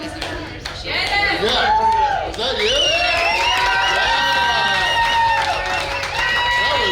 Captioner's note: cheering